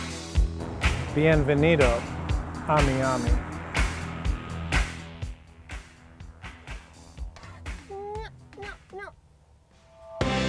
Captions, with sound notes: Bienvenido a Miami (upbeat music) (squawking)